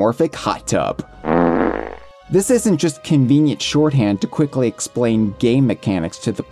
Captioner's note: farting sound effect